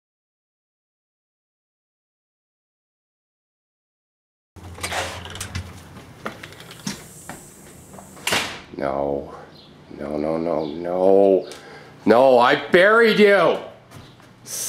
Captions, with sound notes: (squeaking) (door closes) No, no, no, no, no! No, I buried you!